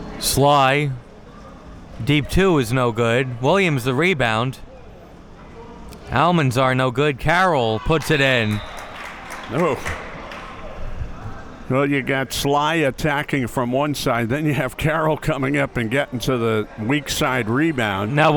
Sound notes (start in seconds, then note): 7.9 spectators applauding